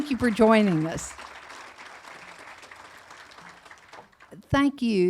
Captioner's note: audience applauding